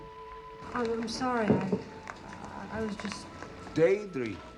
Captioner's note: stuttering